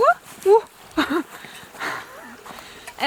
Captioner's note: chuckles